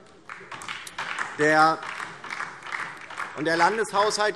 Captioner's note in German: Beifall DIE LINKE